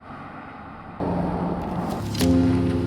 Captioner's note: cars passing